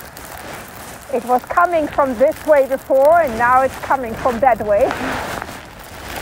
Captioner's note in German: lacht